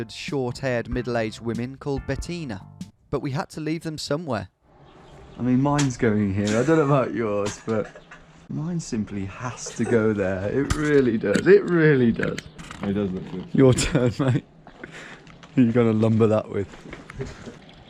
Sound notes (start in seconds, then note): 9.4 laughs